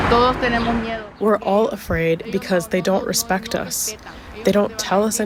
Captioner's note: through translator